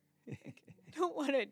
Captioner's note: laughing